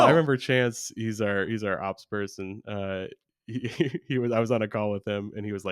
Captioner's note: laughs